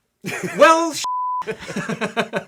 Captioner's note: beep; laughing